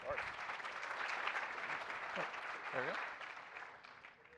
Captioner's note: applause